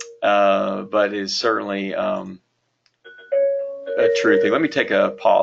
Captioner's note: phone ringing